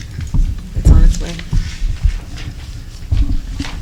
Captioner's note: flipping Through Papers